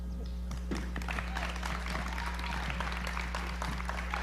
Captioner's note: applause